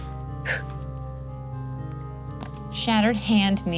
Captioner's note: exhales